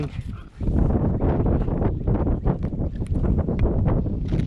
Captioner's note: wind rustling